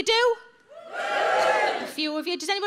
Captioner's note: audience wooing